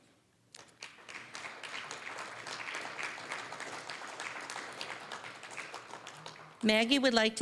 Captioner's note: applause